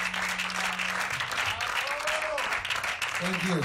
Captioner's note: crowd cheering and applauding